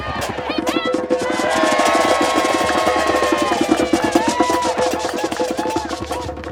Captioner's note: crowd cheers & drums